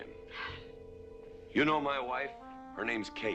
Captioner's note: sighs